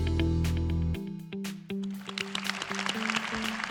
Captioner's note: applause